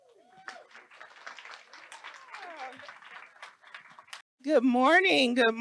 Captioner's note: audience applauds